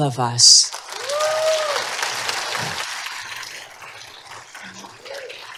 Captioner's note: applause